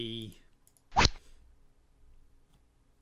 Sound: rod sound

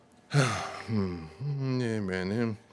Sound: sighs

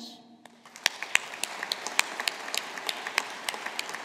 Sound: audience applauding

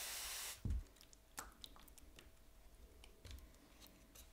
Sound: sprayer fizzing

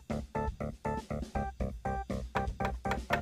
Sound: knocking

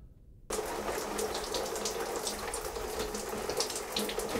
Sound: water splashes

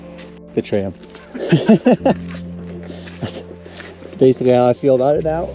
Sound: men laughing

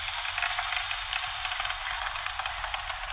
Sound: machine sound

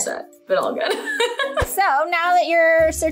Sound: laughs

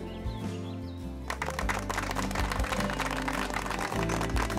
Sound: clapping

